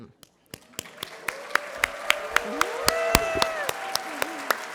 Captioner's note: applause